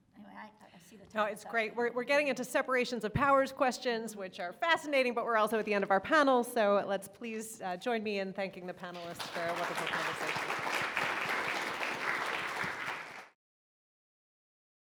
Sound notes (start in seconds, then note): 12.3 audience applauding